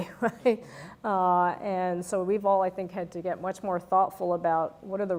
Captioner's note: laugh